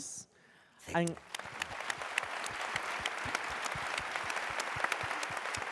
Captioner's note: applause